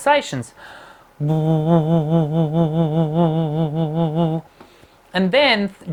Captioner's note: pulsing humming